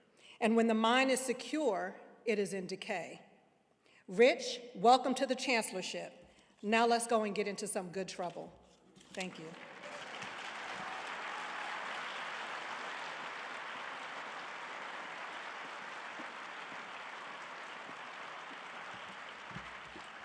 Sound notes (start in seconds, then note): 10.2 audience applauding